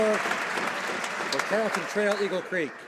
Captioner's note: some Applause